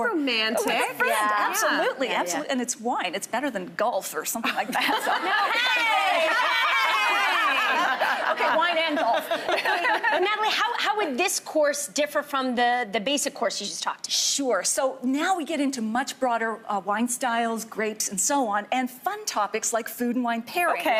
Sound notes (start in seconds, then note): 4.7 laughing